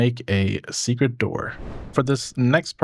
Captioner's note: whooshing